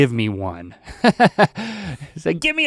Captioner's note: laughing